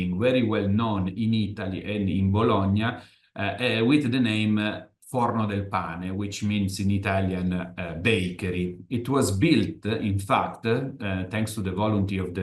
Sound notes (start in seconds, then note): 5.1 italian